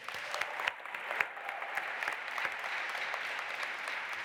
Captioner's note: audience applauding